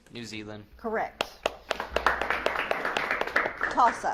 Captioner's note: audience claps